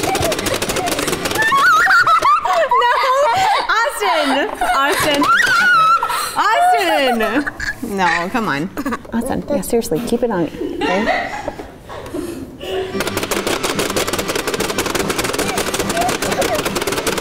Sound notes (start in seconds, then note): 0.2 game clicks; 2.0 screams and giggles; 13.0 game clicks